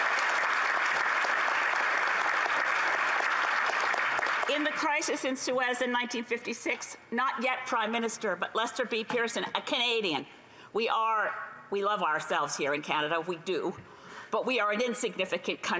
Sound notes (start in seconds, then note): 0.0 applause